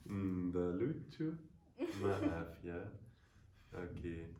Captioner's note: speaking foreign language